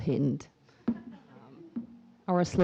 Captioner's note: audience member laughs